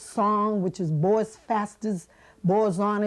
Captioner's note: non-english speech